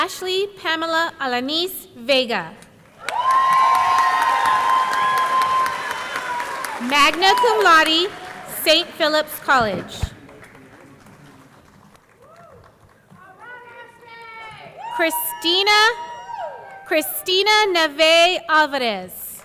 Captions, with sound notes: - Ashly Pamela Alanis Vega. (audience cheering) (audience clapping) Magna cum Laude, St. Phillips College. Christina Navaeh Alvarez.